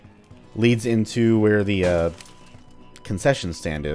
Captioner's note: smash